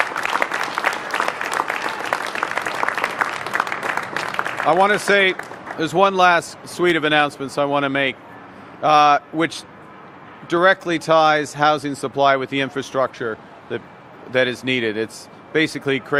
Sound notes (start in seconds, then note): 1.8 applause